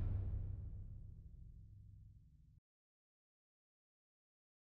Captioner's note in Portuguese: silêncio